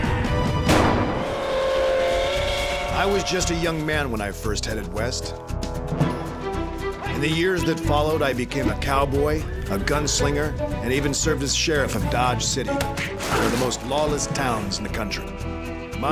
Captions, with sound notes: [GUNSHOT] [TRAIN WHISTLE] BAT, V/O: I WAS JUST A YOUNG MAN WHEN I FIRST HEADED WEST. IN THE YEARS THAT FOLLOWED, I BECAME A COWBOY... A GUNSLINGER... AND EVEN SERVED AS SHERIFF OF DODGE CITY, ONE OF THE MOST LAWLESS TOWNS IN THE COUNTRY.